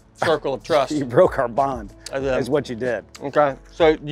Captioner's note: laughs